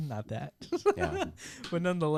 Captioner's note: laughs